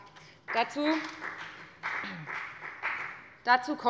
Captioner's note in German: Beifall bei der FDP